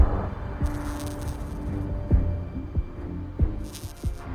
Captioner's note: text buzzing; suspenseful music